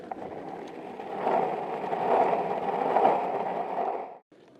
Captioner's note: skateboard rolling